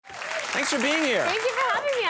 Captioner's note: audience clapping